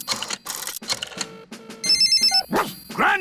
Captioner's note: line rings; barks